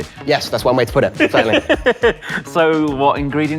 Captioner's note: laughs